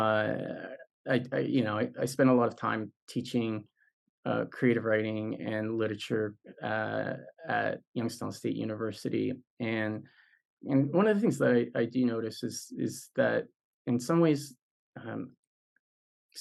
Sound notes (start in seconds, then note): none